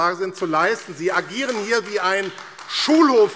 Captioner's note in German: Beifall AfD